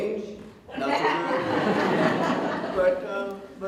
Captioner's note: audience Laughter